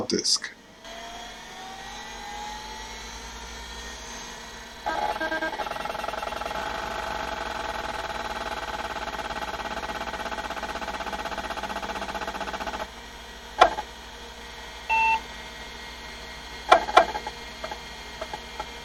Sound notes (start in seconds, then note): 6.1 beep, click, hard-disk noise; 6.1 hard-disk noise